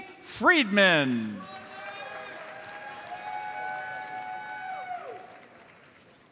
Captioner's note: audience cheers and applauds